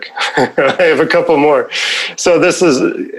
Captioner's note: both laughing